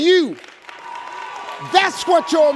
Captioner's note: audience applauding